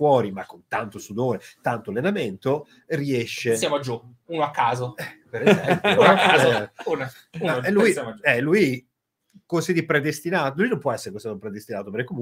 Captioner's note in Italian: Risate